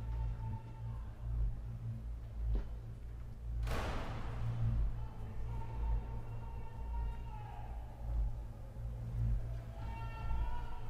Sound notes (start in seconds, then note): 3.6 banging; 6.7 shouting